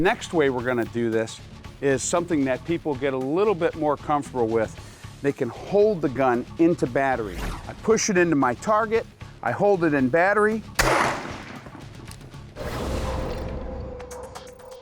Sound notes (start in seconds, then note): 10.8 gunshot